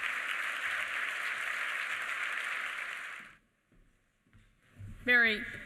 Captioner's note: applause